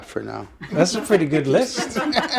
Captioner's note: laughter